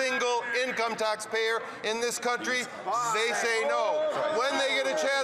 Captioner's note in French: voix de l'interprète